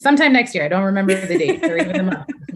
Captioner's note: laughter